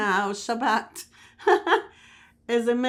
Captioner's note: laughing